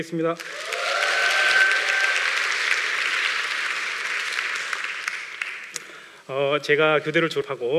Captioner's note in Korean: 박수와 환호